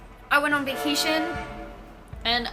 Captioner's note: honk